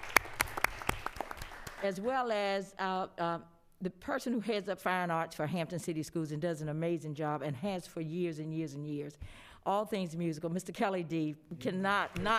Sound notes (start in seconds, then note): 2.6 applause